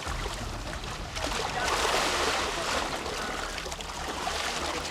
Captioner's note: water splattering